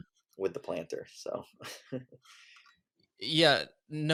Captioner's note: laughs